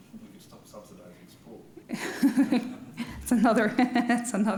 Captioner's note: laughing